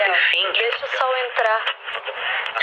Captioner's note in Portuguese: ruído de interferência